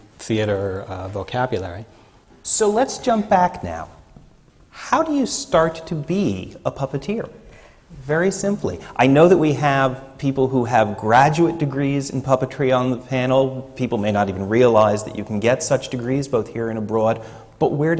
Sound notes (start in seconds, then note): none